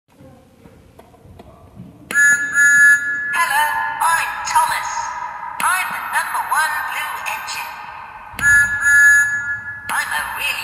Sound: whistle blows

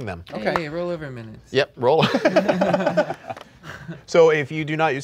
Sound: laughing

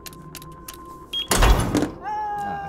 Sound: door clicks; display beeps

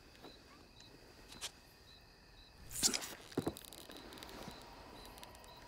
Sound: crickets chirping

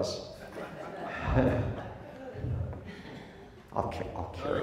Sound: crowd laughs

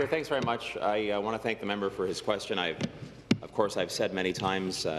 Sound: applause

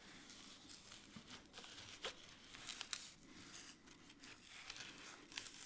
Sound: paper layer crunching

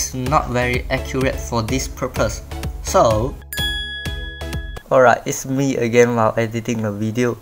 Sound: bell ding?

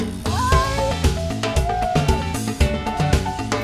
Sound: shouting excitedly; upbeat music

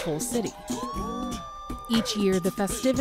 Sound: people cheering

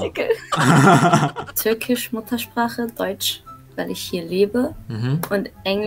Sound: German

